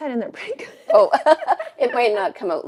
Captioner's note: both laughing